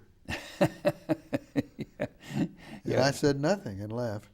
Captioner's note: laughing